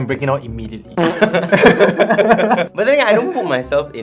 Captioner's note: coping laughter